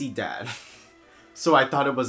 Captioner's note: nose laugh